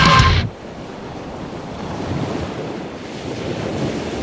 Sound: waves crash

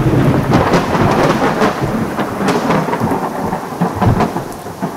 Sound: thunder rumbling

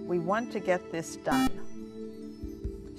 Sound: buzzer

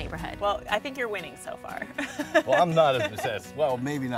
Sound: laughing

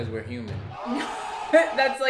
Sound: crowd exclaims

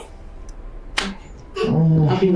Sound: hand smacking

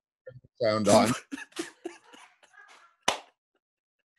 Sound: chuckling

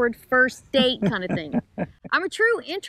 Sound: laughing

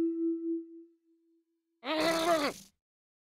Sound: struggling

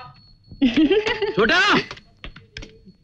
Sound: chuckles

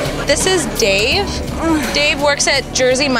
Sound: moans

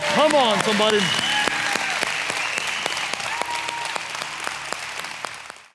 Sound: applause; gentle music

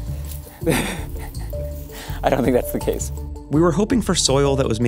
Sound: laughs

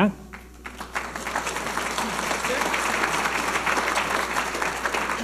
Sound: audience applauding

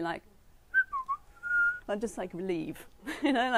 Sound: whistels

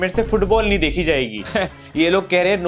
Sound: chuckles

